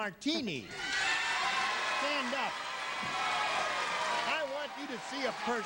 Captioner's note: audience cheers